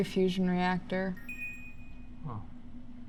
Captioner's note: success chime